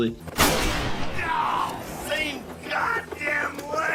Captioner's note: gun fire